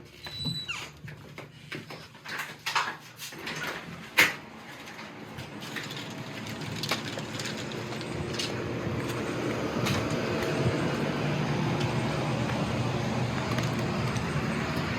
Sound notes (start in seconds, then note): 3.6 door clicking